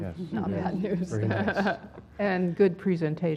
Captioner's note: laugh